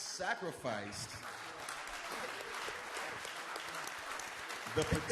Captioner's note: audience applauds